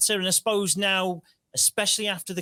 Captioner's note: none